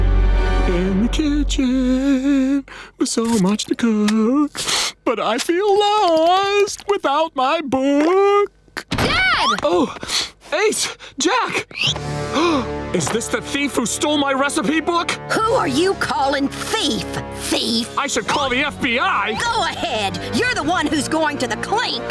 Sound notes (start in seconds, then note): 11.2 gasping